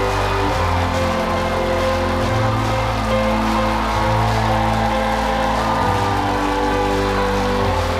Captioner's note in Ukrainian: оплески